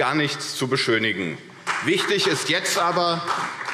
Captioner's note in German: Beifall CDU und BÜNDNIS 90/DIE GRÜNEN